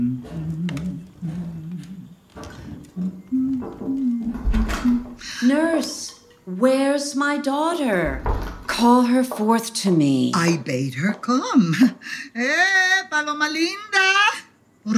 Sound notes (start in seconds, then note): 0.1 footsteps ascending; 3.5 knock at the door; 4.2 door opening